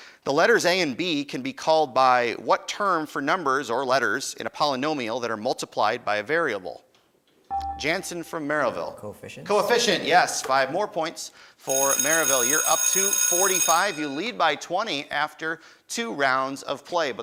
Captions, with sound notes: the letters A and B can be called by what term for numbers or letters in a polynomial that are multiplied by a variable? (beeping) Jansen from Merrillville. >> Coefficients. >> Coefficient, yes, five more points for Merrillville. (bell ringing) YOu're up to 45. You lead by 20 after two rounds of play,